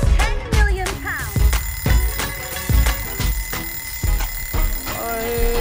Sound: alarm clock rings

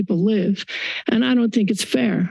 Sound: inhales

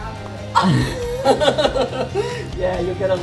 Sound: laughing

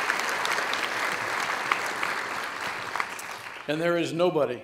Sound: audience applauds

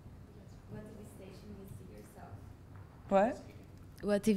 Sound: student speaks off-microphone; voiceover

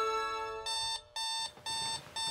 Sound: alarm beeping

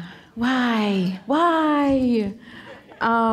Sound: audience chuckling

